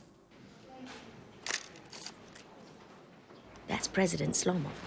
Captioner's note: camera shutters